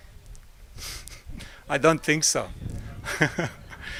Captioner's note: laugh